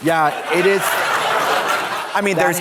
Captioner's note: audience laughs